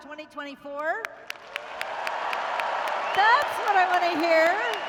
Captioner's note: applause